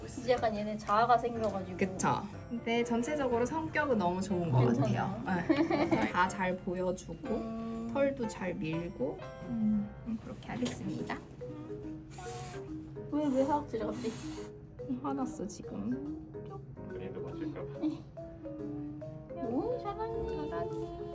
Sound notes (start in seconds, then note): 13.3 Suddenly Jjondeok hissed